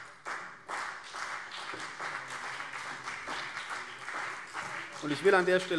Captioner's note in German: Beifall CDU und BÜNDNIS 90/DIE GRÜNEN